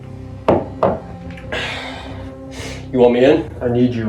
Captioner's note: sighs